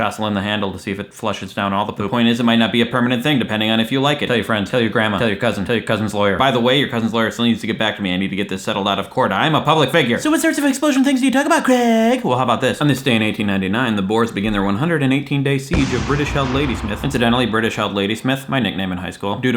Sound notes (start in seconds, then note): 10.3 high mocking voice, slurring